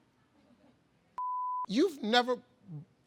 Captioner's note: beep